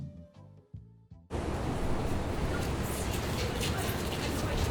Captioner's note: bus droning